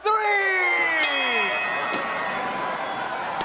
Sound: bell dinging

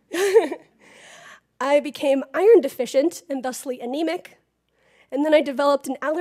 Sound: laugh

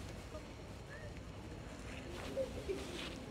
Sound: laughter

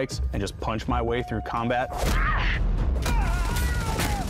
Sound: grunts and thuds

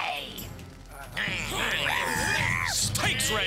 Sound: growling

